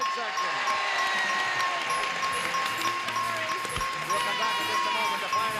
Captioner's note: alarm dings; audience cheers